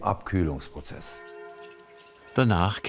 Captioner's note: church bells ring